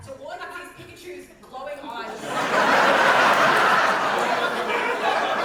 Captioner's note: audience laughter